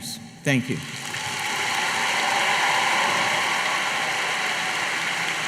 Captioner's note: applause